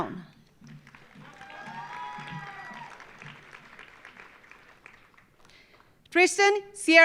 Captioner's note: audience applauding; audience cheering